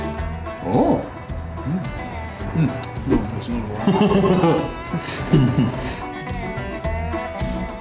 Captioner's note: laughter